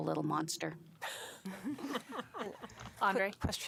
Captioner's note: laughter